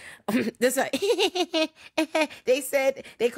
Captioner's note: laughing